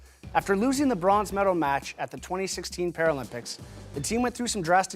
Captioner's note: none